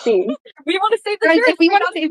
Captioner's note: laughing